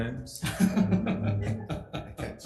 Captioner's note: board members laughing